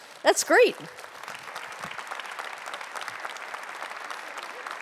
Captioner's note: audience applauding